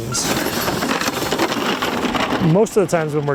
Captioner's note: metal scraping